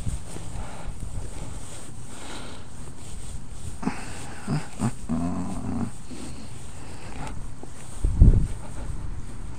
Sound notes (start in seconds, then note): 8.1 wind